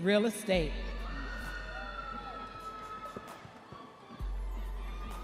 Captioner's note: crowd cheers